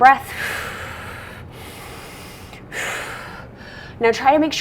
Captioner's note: breathing deeply